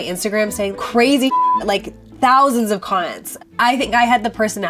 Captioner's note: beep